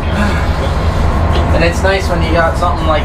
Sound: sighs

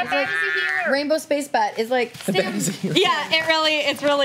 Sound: overlapping chatter; overlapping chatter

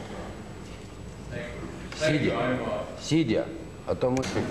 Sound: non-english speech

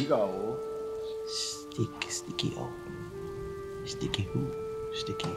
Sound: speaks in foreign language

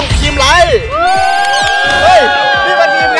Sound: cheering; applauding

